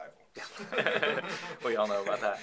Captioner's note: laughing